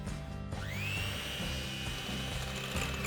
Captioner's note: whirring of beaters